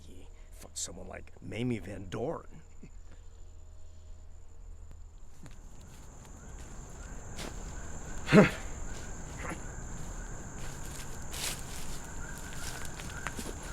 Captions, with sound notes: he fucked someone like Mamie van Doren. (Becker chuckles) (Dogmouth grunts) (distant animals chattering)